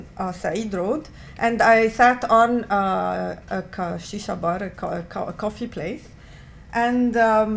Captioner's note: non-english